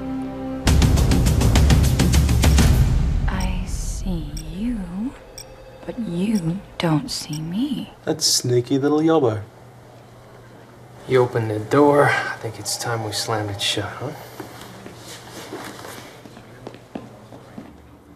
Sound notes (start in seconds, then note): 3.3 beeps of tracking device